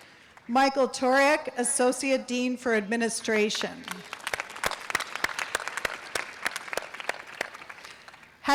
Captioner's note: audience applause